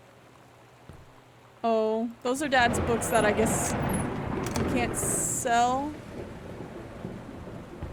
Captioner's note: loud Thunder